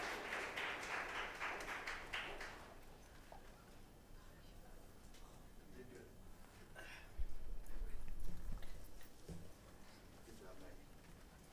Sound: applause

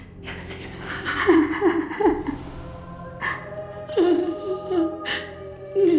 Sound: crying

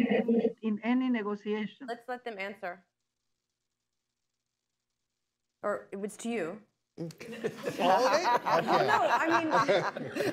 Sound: laughter

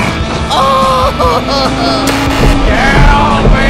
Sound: Peach and DK scream; screaming

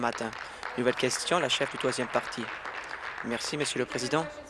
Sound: applause

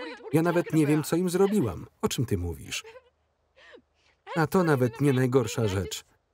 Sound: cries

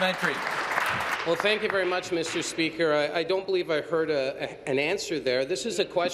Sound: applause

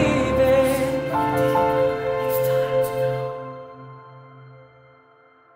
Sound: whispered

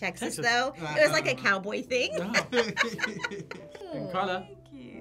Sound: both laugh

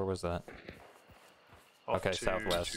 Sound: gunshot

